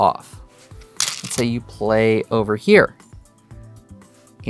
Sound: stones rattling

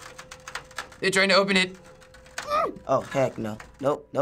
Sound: clattering; hums in fear

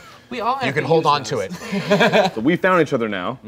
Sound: laughing

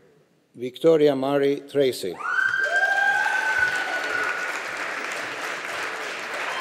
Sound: audience applauding

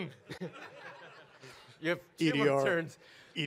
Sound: audience laugh

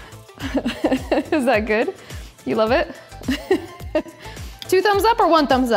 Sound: laughs; laughs

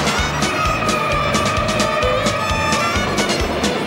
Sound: train chugging

